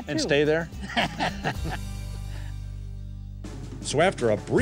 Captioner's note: laughing